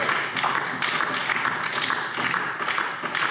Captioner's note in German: Beifall DIE LINKE und vereinzelt SPD